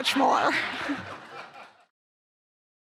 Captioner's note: laughter